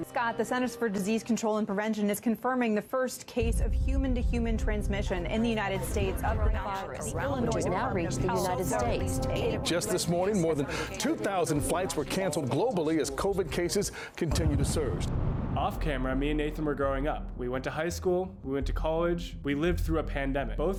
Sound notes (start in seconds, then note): 5.2 background chattering; 14.3 boom